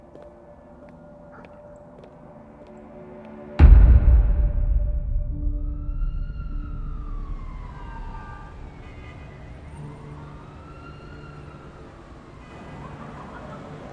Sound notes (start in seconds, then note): 0.2 tense music; 3.5 bassy music; 5.5 police siren blaring